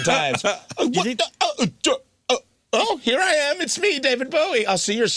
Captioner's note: laughing